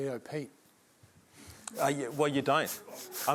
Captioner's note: laughter